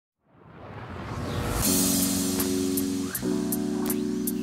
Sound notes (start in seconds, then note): 0.4 air whooshing; 1.6 upbeat music